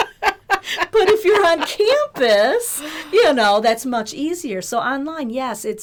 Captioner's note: laughter